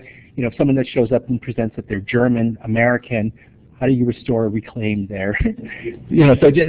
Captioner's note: laughter